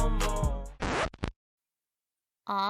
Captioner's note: record scratch